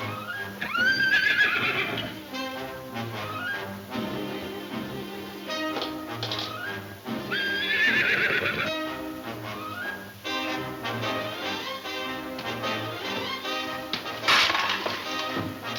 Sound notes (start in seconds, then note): 0.0 horse whinnying; 7.1 horse whinnying; 13.9 clattering